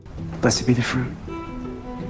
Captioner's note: voiceover